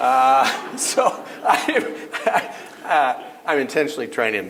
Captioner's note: chuckle